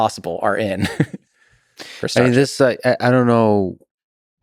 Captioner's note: Tim laughs